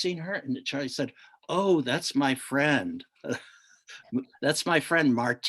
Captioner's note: chuckles